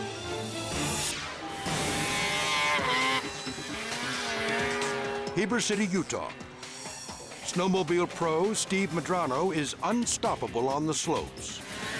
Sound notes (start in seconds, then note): 0.4 snowmobile revving